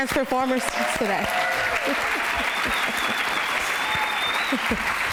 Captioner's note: applause